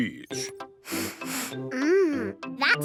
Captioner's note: sniffs